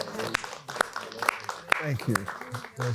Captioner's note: applauds